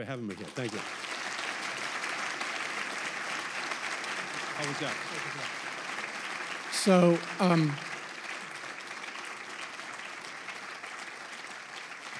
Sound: applause

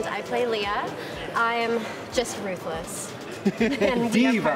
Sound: laughs

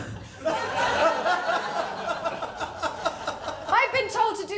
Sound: laughter

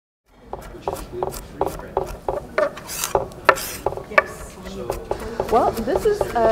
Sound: chopping

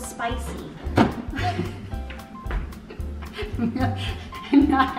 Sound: laughing

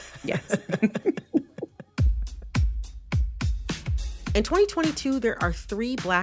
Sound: laughter

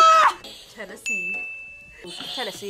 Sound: buzzer rings; bell rings; buzzer rings

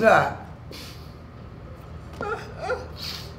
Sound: wheezing

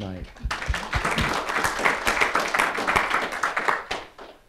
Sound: audience applauding

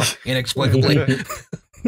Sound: laughter

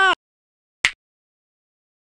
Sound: snap

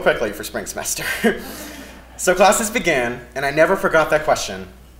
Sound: laugh

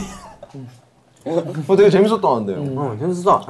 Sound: haha

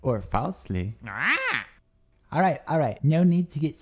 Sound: squawks

